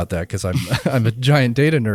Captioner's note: both laughing